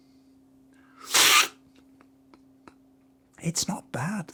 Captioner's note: slurping